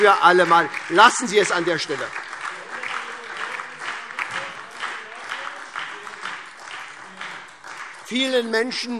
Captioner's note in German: Beifall SPD und DIE LINKE - Zurufe CDU